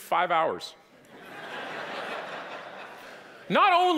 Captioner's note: audience laughing